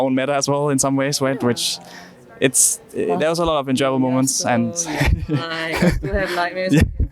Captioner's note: laughs